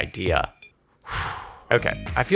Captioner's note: exhales